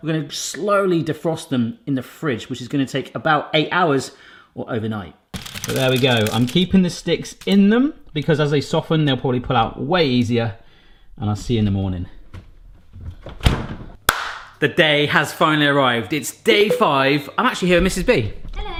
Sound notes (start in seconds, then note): 12.1 clunking; 14.0 claps